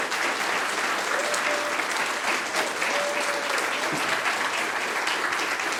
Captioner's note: audience applauding; audience cheering